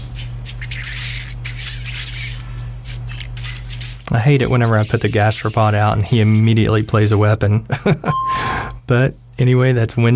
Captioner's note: haha